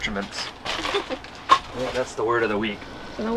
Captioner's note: laughs